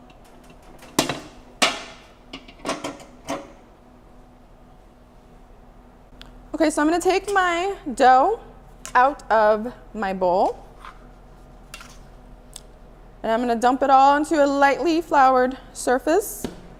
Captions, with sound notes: (bowl clanking) OK, so I'm gonna take my dough out of my bowl, and I'm gonna dump it all onto a lightly floured surface.